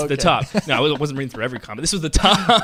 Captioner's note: laughs